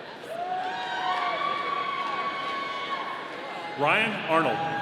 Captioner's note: audience cheering